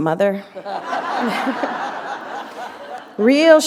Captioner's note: laughter